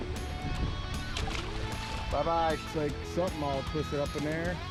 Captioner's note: water splashes